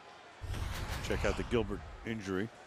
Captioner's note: swoosh